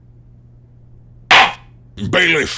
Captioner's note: gavel slams!